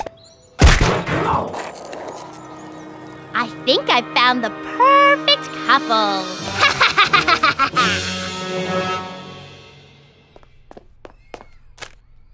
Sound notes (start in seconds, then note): 6.4 crazed laughter